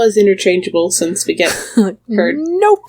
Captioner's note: laughs